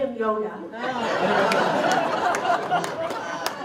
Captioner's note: laughter